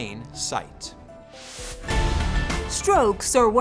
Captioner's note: dramatic music; whooshing